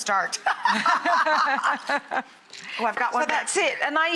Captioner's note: laughs